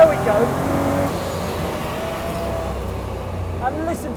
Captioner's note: engine roars